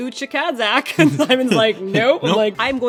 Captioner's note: laughs